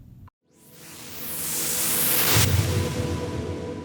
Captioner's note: whooshing